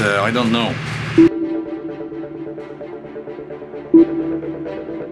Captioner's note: slow pinging